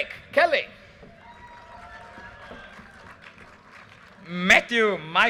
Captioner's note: audience cheers and applause